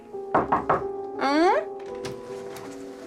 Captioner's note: ketukan